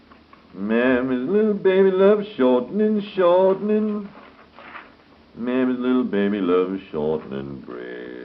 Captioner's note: humming